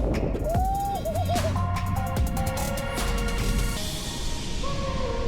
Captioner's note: excited shouting